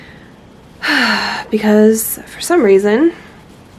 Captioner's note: sigh